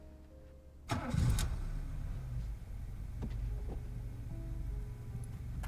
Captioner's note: car engine revs